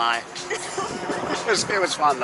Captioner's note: laughing